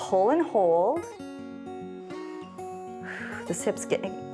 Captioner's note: inhales and exhales